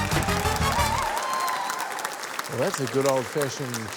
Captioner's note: cheering, applause